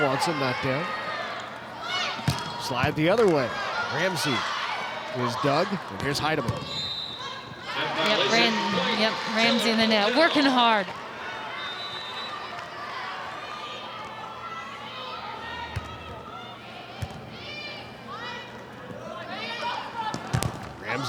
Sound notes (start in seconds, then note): 6.7 whistle blowing; 17.0 ball thumping; 17.2 players shouting indistinctly